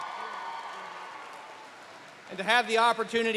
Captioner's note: applause